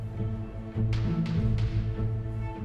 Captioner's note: gavel bangs